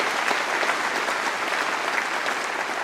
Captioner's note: applause